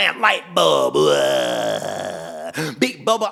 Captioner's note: growling